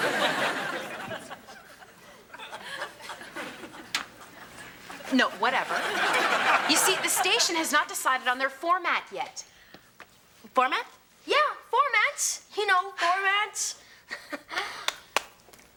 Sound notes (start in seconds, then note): 0.0 audience laughing